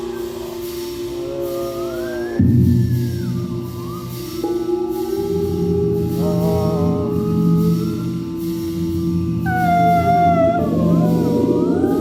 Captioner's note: wind and whistling; wind and whistling